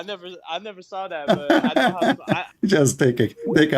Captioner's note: Ketawa